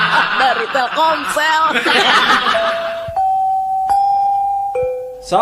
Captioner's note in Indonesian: tertawa